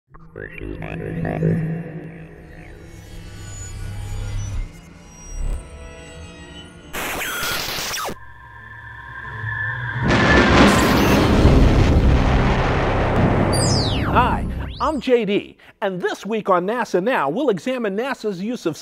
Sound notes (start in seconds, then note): 0.1 sound Effects